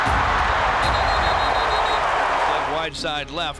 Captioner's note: crowd cheers; whistle blows